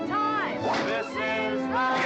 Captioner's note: crack; cracking whip